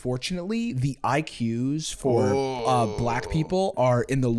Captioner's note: groaning